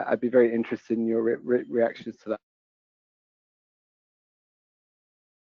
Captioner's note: audio cuts out